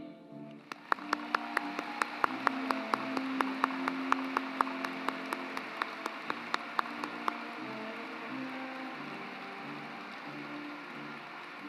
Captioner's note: applause